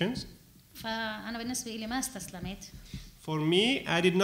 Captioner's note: speaking arabic